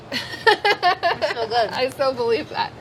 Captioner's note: laughs